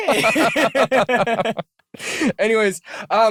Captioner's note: laughter